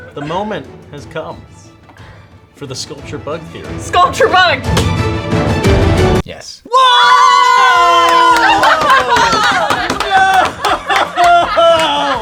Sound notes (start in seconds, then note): 6.7 cheering; 10.0 laughing